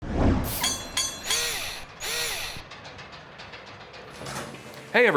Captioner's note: mechanical SFX